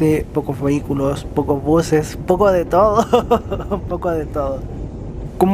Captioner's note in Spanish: risas